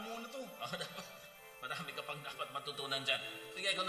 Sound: chuckles

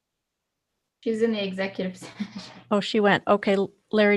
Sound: chuckles

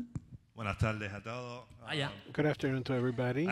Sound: audience member speaking in foreign language

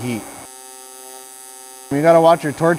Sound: electric welding machine humming

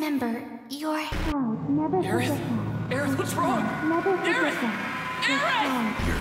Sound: aerith's v-o distorted

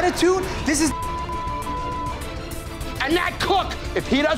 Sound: beeping

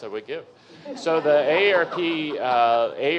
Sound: audience members laughing

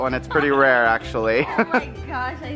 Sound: laughs

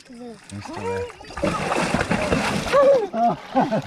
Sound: splashing and struggling

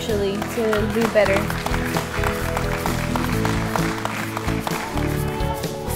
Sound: audience applauds

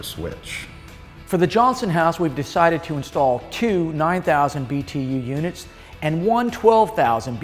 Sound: voiceover

